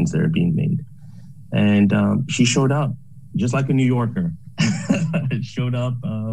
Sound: laughs

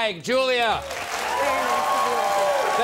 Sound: clapping

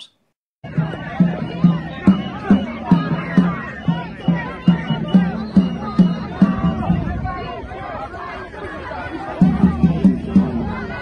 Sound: sounds of a crowd and drumming

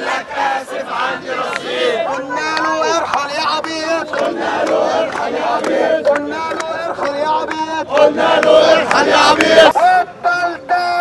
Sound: chants

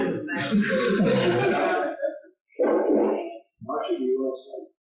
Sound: laughter

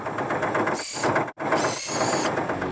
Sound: engine Running

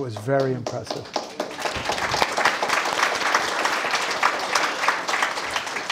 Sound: audience applauding

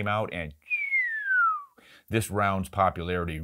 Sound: descending whistle

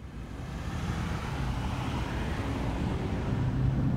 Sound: ambient traffic noises

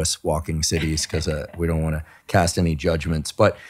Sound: laughing

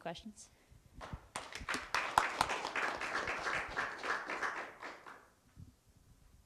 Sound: applause

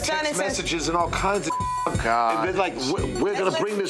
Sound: beep

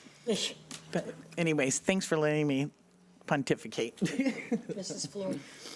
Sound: laughs

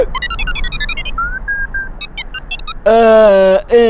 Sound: beeps

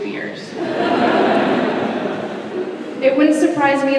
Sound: laughter

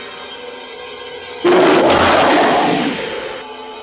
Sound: wolf growls, howls

